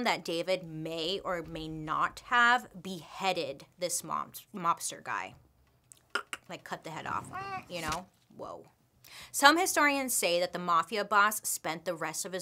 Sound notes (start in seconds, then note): 5.8 clicking tongue